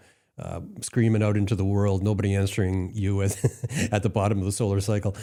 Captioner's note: laughs